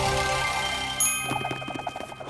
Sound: dinging

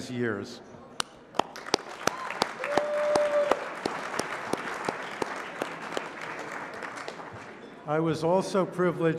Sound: applause

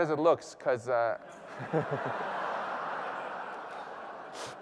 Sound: laughter

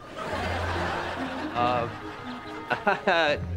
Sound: chuckles

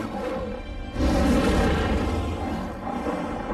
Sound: roars

